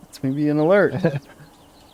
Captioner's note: laughs